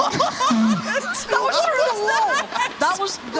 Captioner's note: laughter